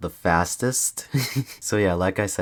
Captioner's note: laughs